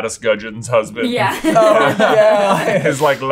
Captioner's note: laughs